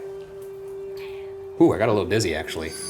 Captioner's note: automated Voice